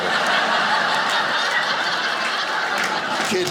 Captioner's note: audience laughing